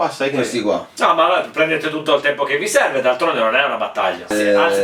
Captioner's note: sarcastic